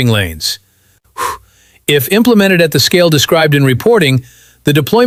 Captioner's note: exhales